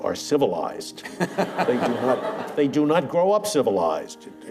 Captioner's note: laughter